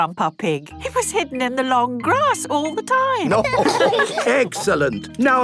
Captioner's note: laughter